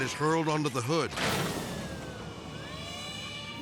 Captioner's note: body slamming; sirens blaring; dramatic music